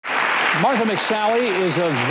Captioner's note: audience applauding